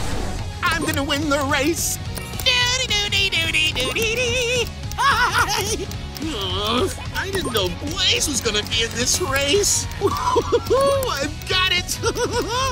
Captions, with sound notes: I'm going to win the race. [humming tune] [laughing] Ugh, I didn't know Blaze was going to be in this race! Ooh, I've got it! [giggling]